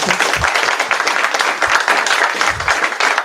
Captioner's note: applause